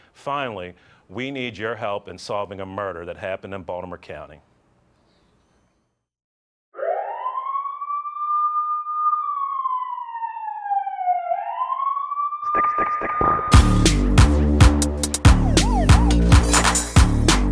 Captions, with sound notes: Finally, we need your help in solving a murder that happened in Baltimore County. (sirens wail) (upbeat techno music)